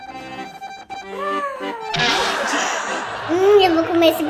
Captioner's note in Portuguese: Som de mola; risadas ao fundo